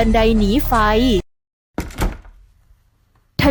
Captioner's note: sound of the door